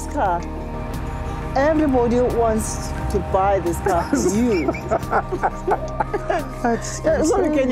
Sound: laughs

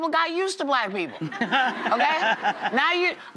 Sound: audience laughs

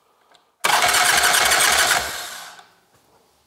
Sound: starter noise

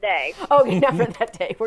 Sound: laughing

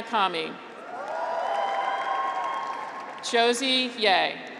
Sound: graduates cheer; audience applauds

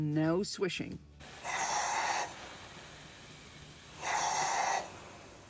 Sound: steam escaping

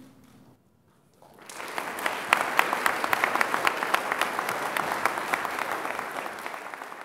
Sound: applause

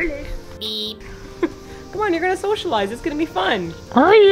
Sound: chuckles

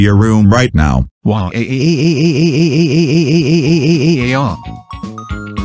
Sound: crying

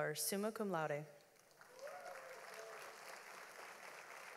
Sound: audience applauds

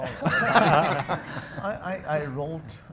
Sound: audience and panel laugh

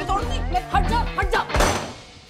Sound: door closes

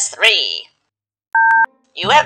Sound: phone Tone

